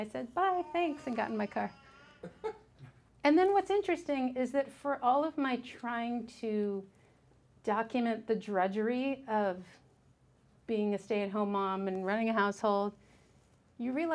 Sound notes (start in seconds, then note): 2.2 man chuckled